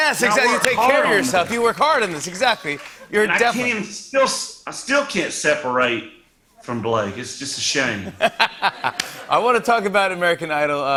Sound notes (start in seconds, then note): 8.1 laughs